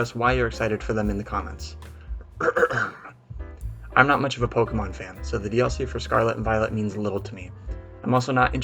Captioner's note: ahem